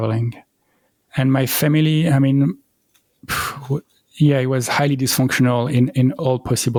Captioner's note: breath